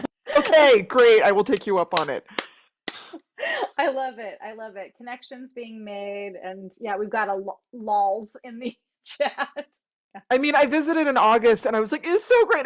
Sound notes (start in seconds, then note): 9.8 laughing